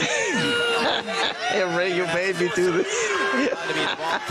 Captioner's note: laughs